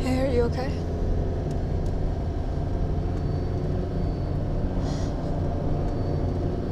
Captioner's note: engine revving; tense music